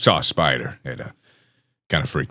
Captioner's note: inhales